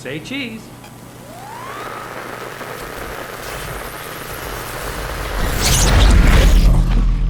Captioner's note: static sound; machine whirring